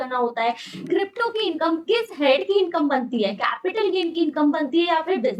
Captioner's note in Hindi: नाक से की जाने वाली आवाज़